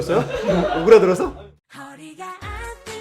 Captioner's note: distant laughter